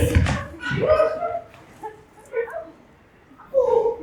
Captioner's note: laughter